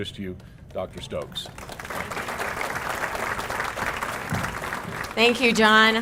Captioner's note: applause